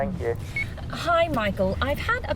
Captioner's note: voicemail beeping